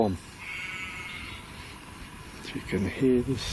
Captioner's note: sheep bleats